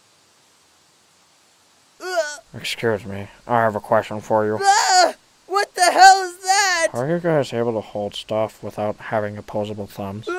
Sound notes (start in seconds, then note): 2.0 fluttershy yelps; 4.6 fluttershy screams